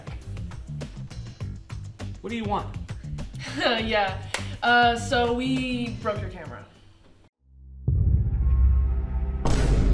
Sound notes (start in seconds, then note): 0.0 upbeat music; 4.1 chuckles; 7.5 tense brooding music